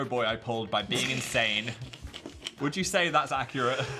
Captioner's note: Dan laughs